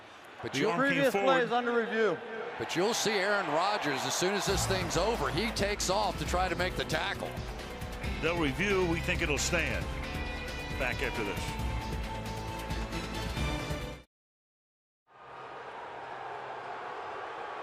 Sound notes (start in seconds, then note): 3.1 cheering